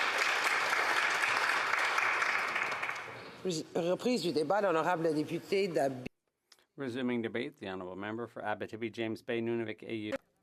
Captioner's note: applause